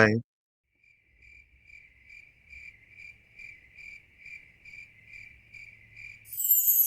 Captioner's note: crickets